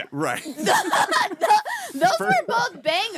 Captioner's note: laughing